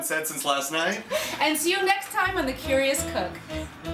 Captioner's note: laughs